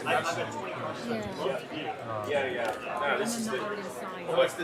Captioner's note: chattering